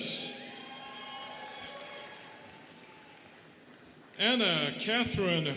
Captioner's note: students cheering